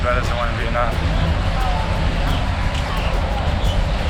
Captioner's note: sound of water waves; instrumental music